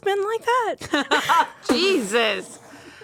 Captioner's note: laughs